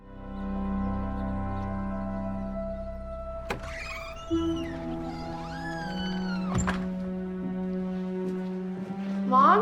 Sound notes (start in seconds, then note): 0.2 birds chirping; 3.4 door creaks